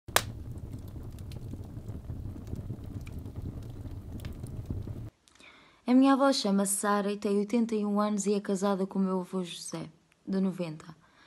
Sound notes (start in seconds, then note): 0.0 fire